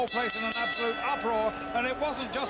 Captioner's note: bell ringing